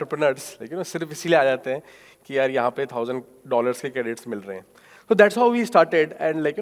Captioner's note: speaking in foreign language